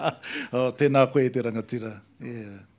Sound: laughter

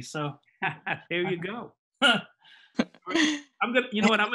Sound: laughs

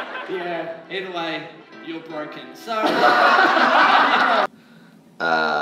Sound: laughter; laughter

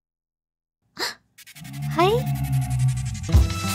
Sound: gasps

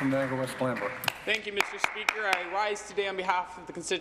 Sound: applause

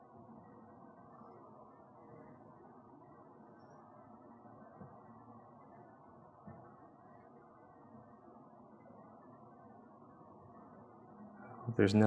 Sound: silence

